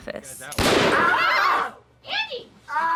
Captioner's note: screams